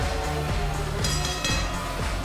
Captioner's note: bell ringing